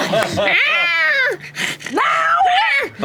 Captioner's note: yells; squeals